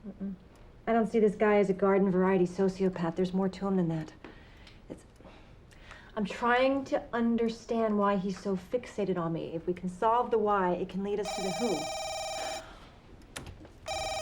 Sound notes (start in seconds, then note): 11.2 phone ringing